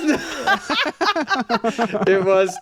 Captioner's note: laughing